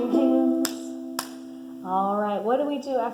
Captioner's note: claps